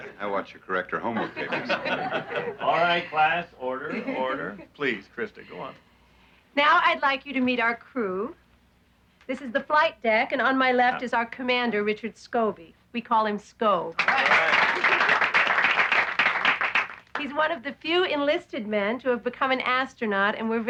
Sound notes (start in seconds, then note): 13.9 applauding